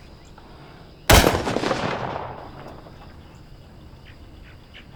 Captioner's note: gun fires